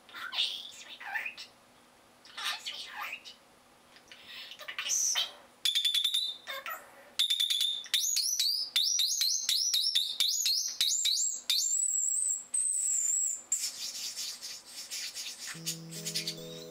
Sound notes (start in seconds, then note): 4.5 bird squawking